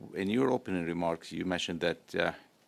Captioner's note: speaking French